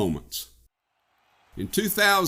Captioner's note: cheering crowd cheers enthusiastically